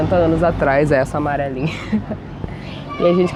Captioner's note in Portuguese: risada